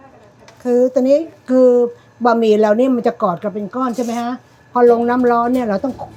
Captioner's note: speaking Thai